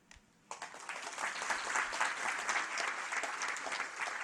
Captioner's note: audience applauding